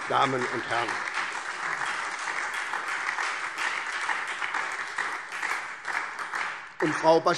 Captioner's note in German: Beifall